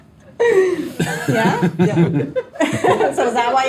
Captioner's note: audience members laughing